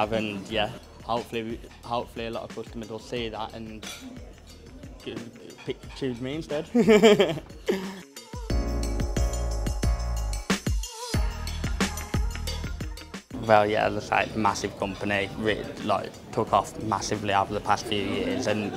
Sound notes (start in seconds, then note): 6.7 laughs; 9.2 upbeat soulful music